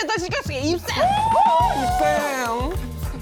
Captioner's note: cheering